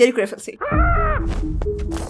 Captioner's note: screaming sound